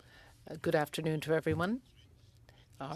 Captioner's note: speaking French